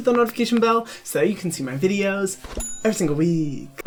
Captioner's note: bell dings